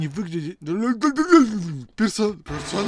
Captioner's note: angry broken tongue sounds